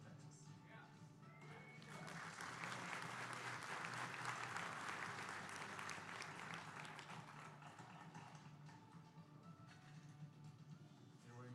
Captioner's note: applause